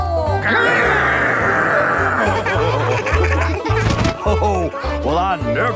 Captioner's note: laughing